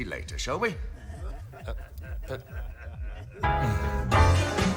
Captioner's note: laughter